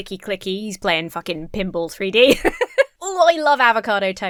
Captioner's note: laughs